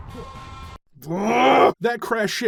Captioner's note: agonizing scream of frustration